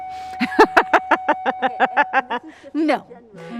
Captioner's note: continued laughter